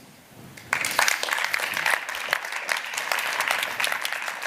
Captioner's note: applause